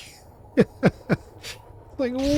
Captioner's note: laughs